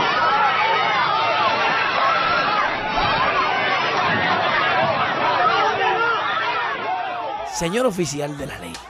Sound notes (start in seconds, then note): 0.0 crowd noise